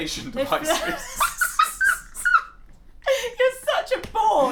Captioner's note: laughter